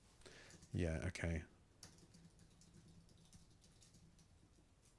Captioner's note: silence